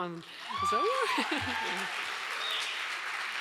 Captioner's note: laughing; audience applauds